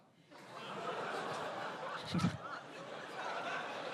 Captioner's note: laughter